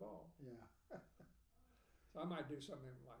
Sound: laughing

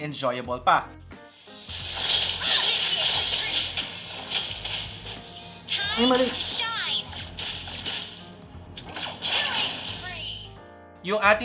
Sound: game audio

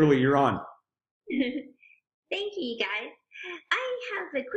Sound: giggling

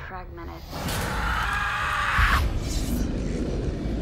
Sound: screaming

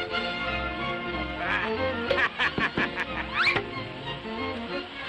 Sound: evil Laugh

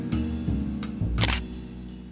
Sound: camera shutter

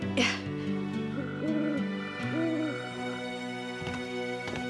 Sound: owl hoots

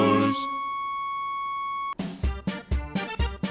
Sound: flat-line

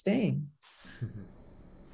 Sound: laughs

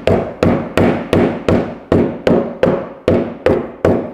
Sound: hammer banging

